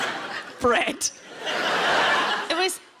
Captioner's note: audience laughing